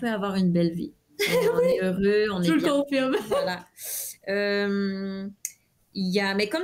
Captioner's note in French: Rires